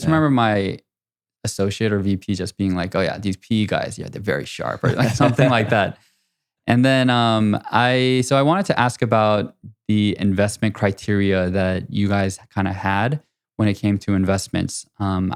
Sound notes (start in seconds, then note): 4.8 laughing